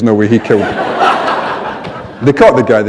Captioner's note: laughter